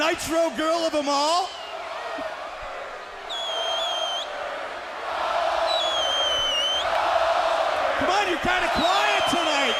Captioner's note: crowd cheering